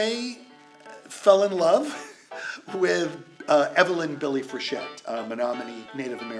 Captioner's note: laughs